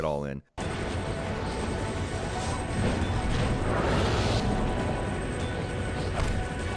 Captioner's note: dramatic music; helicopter rotors whirring